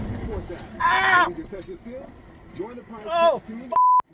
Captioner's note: radio announcer speaking lightly; screaming